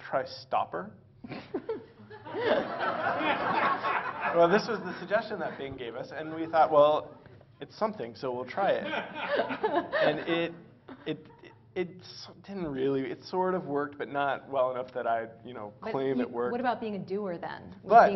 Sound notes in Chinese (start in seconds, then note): 1.2 Laughter; 1.2 笑聲